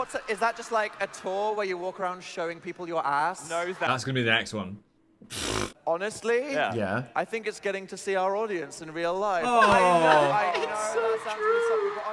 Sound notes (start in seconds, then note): 5.3 scoffing